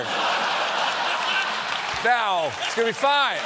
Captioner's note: laughter; applause